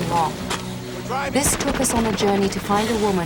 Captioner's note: gunfire